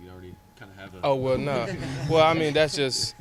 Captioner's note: laughter